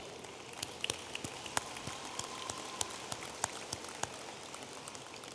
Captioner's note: audience applauding